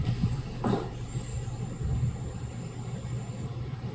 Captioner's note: creaking; footsteps